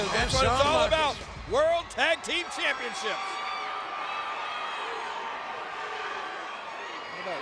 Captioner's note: crowd cheering